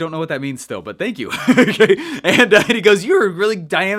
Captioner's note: laughs